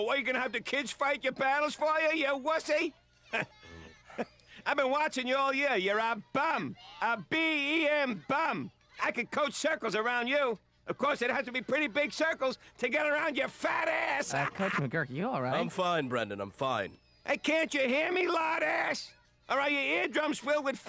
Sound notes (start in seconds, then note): 3.3 snickers